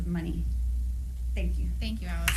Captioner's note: applause